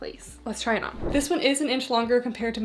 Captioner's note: screen whooshing